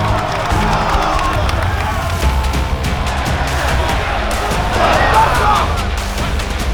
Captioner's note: audience cheering; lively music